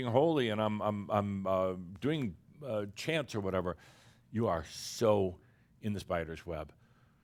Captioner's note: none